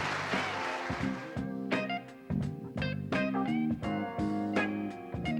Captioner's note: audience applauding; blues